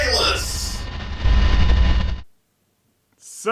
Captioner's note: low static